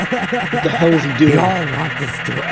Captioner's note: Delta Laughing